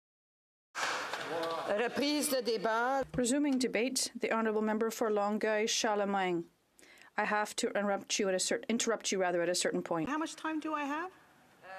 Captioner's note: applause